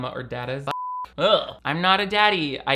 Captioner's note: beep